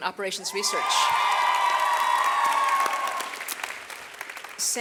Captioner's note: audience cheers